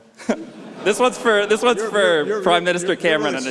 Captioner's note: laughter